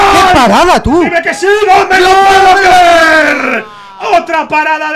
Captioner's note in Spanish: grita